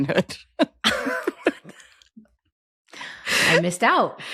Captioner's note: both laughing